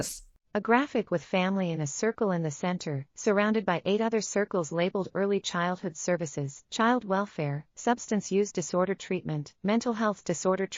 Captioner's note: audio Description being read